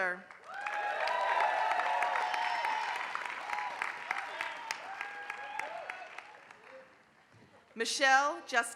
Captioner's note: applause